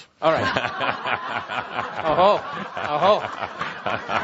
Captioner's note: chuckling and audience laughter